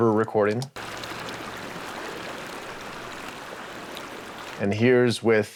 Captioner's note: water running